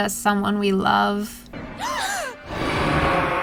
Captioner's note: everyone gasps